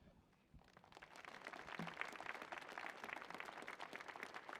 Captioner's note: audience clapping